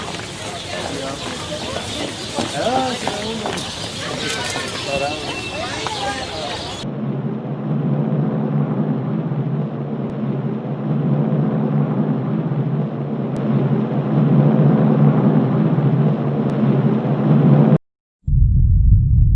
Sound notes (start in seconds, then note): 0.0 crowd chattering; 9.5 plane roaring